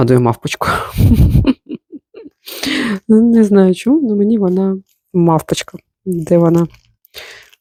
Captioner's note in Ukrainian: сміх